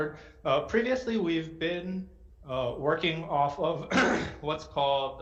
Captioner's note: clears throat